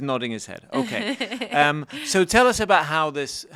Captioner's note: laughs